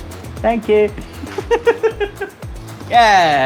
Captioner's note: giggles awkwardly